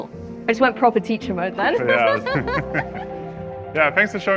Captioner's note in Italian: ridendo